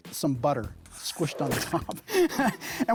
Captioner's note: laughs